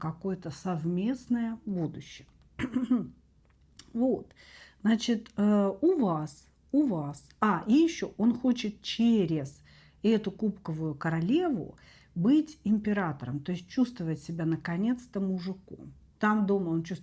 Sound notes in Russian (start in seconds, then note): 2.5 кашель; 2.6 откашливается